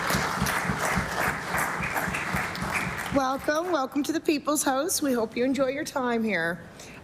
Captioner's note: applause